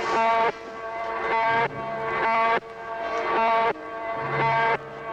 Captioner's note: buzzing